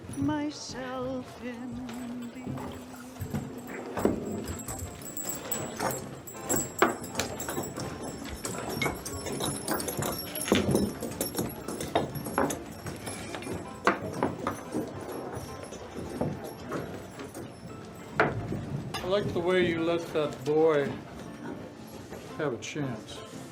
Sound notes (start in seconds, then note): 4.8 background people chattering; 4.8 melodic piano music